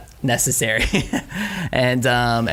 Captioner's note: laughs